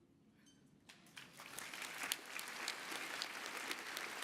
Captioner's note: applause